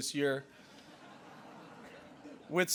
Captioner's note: laughter